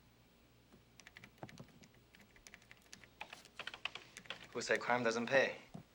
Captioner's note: keys clicking